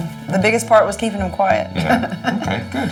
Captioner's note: laughs